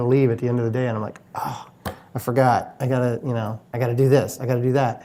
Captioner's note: sighs